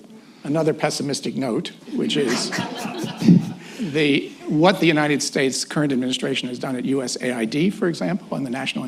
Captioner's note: laughter